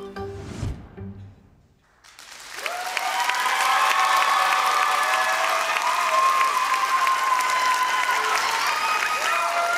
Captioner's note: applause